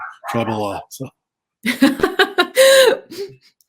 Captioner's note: laughter